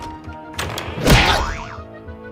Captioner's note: boing!